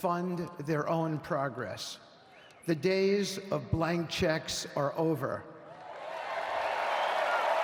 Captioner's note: cheers and applause